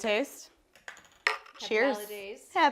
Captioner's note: clink